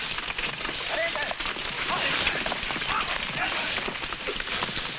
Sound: men shouting

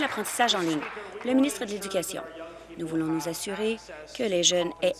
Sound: applause

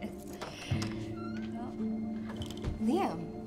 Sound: door creaks

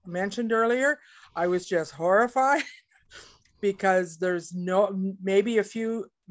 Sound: laughs

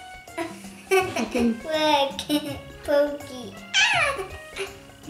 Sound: laughing

